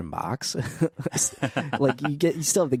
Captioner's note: laughing